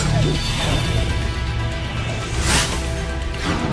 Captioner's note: vortex rushes; tense music continues